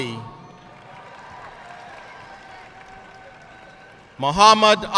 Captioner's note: audience cheering and applauding